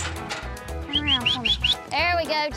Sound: whistling

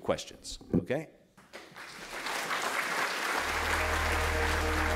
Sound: applause

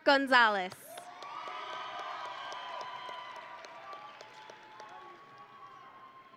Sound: audience and graduates cheering

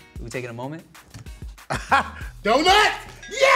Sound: laughs

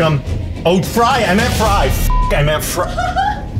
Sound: beep

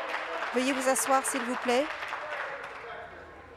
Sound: applause

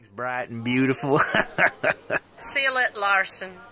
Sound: chuckles

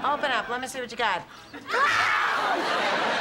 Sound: screams

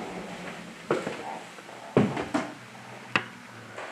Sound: footsteps

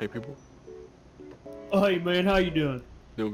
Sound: exaggerated country accent

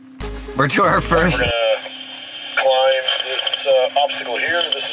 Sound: radio voice

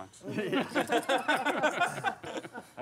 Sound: laughing

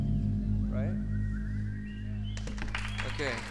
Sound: audience applauding

